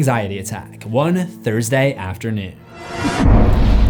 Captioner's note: impact